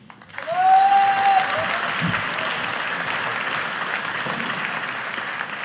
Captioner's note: audience applauding